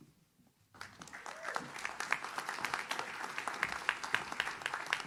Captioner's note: audience claps